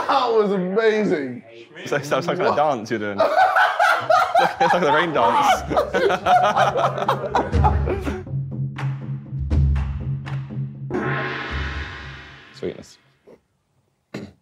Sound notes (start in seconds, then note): 3.4 group laughing; 7.9 ominous drum music; 10.9 gong banging; 14.1 group quietly laughing